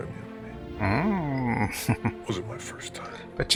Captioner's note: chuckling